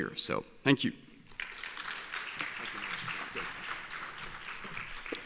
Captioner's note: applauding